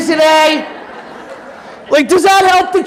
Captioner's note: audience laughing